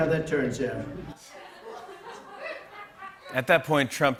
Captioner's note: laughter